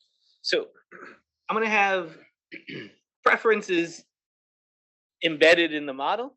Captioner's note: cough